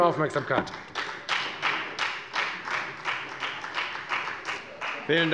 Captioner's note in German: Beifall bei der FDP